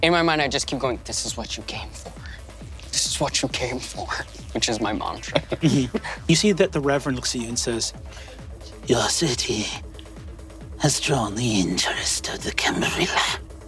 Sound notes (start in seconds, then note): 4.8 Lou chuckling